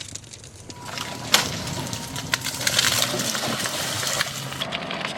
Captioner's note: rocks Splashing